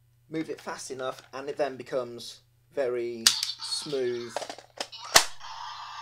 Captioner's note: electronic sound effects overlapping